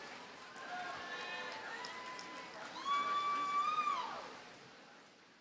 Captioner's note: audience cheers and applauds